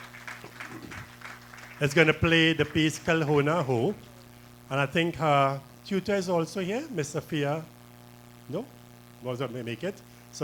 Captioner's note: applause